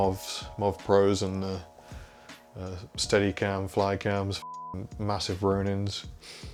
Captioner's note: beep